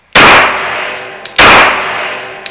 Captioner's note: pew